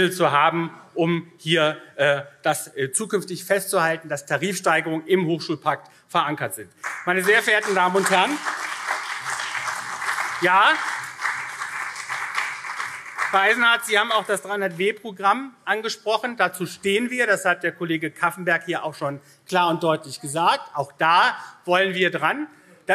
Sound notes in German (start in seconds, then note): 6.4 Beifall CDU und SPD